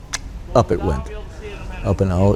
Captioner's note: mimicking cutting sounds